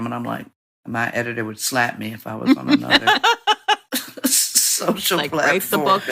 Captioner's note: laughter